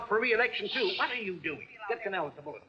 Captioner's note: shushing